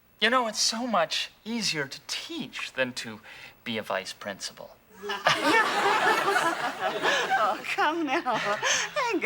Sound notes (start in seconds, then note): 5.0 Atoll laughing